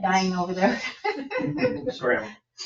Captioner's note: people chuckle